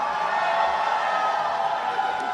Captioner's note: applause and cheering